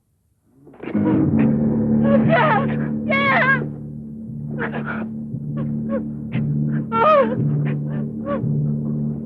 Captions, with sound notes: Pierre! Pierre! (men grunting) (Jeanette sobbing)